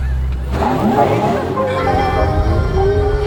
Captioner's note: electric motor sound